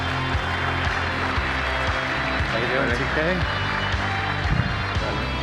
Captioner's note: applause